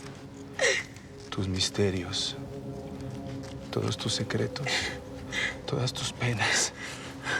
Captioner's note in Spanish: Sollozos